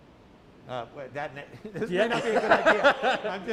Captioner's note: laughter